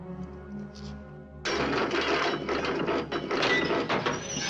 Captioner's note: clanging